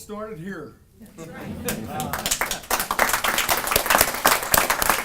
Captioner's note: audience applauding